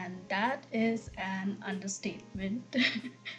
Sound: laughs

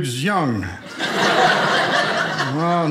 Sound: audience laughing

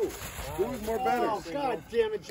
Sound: yelling

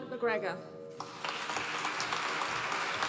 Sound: applause

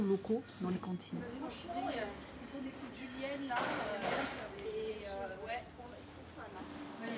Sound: indistinct chatter

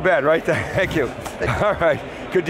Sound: chuckles

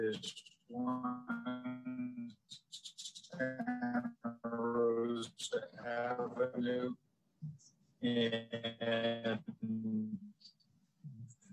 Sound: microphone Distorted

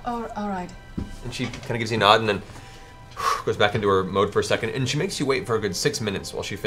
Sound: huffs

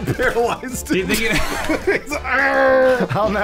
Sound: laughing

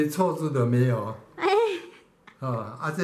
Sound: laugh

